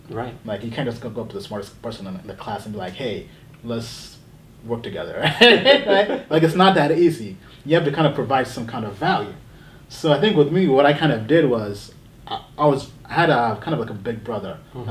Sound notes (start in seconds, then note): 5.3 laughing